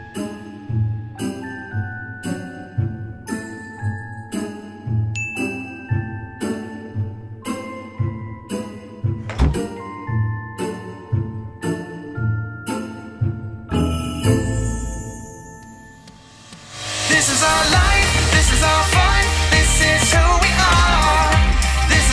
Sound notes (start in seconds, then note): 5.2 bell chimes; 9.2 door shuts; 13.8 chimes ring